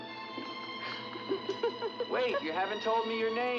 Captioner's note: girl laughs